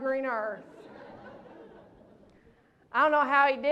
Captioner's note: laughter